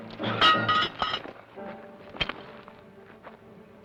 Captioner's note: pan clangs